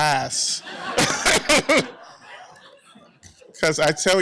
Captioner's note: laughter